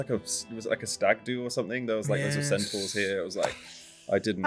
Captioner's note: sighs